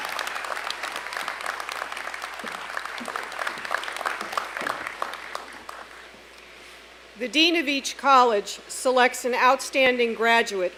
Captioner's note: applause